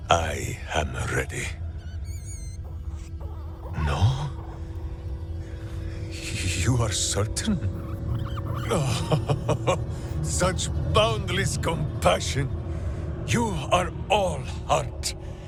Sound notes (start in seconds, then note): 9.0 laughing